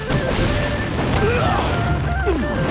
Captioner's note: grunting